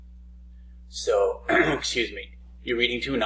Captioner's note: clearing throat